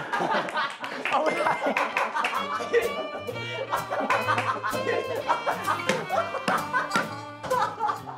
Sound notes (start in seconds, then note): 3.9 laughing